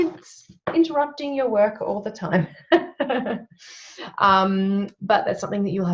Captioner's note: laughs